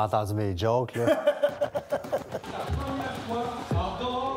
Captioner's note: laughing